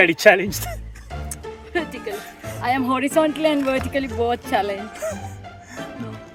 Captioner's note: laughs